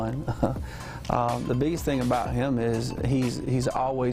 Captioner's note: chuckles